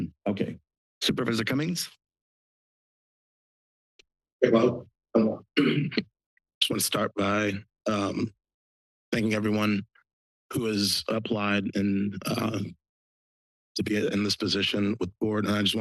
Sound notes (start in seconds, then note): 2.1 silence; 5.6 clears throat